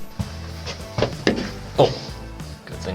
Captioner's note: bonk